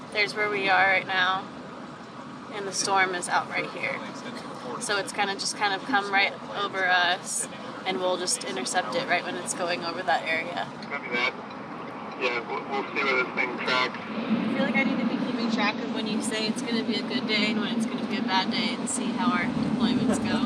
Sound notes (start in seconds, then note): 11.0 man On Radio